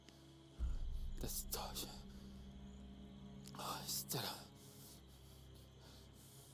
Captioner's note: speaking in foreign language